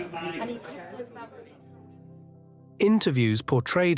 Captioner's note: reporters chattering